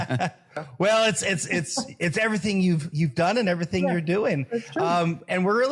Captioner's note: laugh